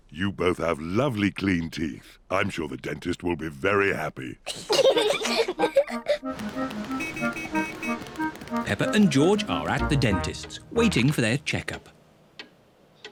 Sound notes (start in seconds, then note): 4.5 both giggling